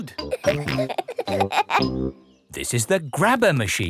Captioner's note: peppa and george laughing